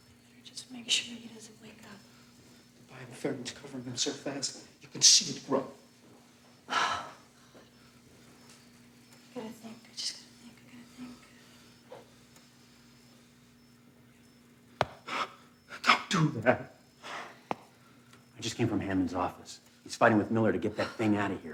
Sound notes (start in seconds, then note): 6.7 Anna sighs; 14.9 gasps